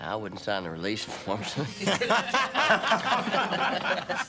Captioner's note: laughing